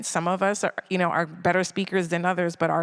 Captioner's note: none